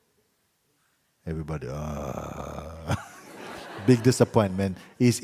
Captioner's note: laughter